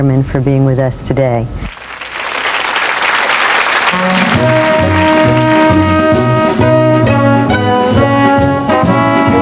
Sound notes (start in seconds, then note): 1.7 applause; 3.8 triumphant music